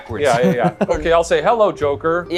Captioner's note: chuckles